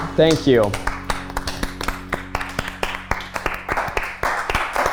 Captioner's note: everyone clapping